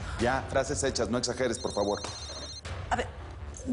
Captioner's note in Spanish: Suena un celular